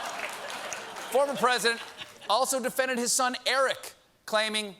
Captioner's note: laughter